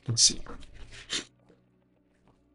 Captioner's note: sniffing